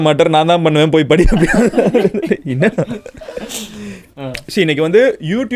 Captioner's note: group laughs